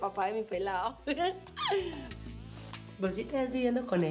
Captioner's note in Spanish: risas